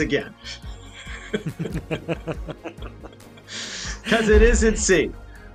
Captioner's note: all laugh